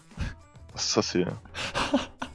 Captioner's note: laugh